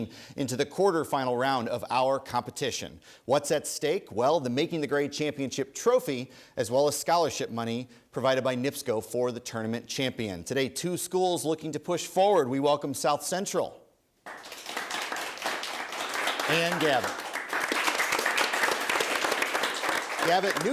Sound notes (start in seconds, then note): 14.2 applause